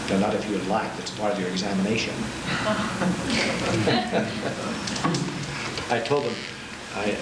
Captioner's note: class laughing